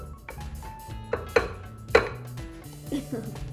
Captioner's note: bowl clanking; giggling